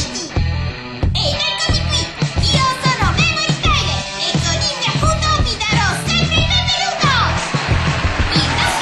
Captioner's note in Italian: applausi